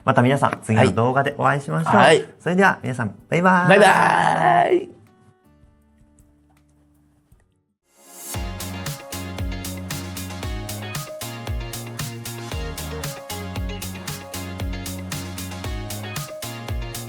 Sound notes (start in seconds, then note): 7.9 laughs